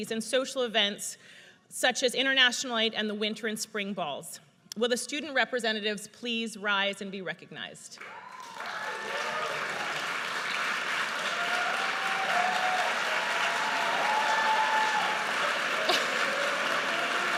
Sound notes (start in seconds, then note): 8.0 audience cheers and applauds